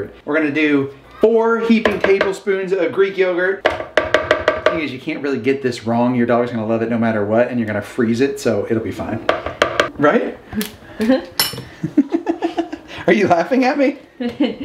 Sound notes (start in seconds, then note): 10.5 tapping; 11.8 laughing